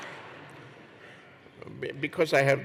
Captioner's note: laughter